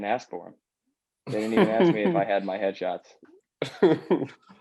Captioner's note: laughter; laughs